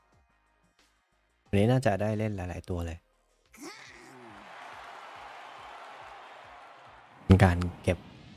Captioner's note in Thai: ปรบมือ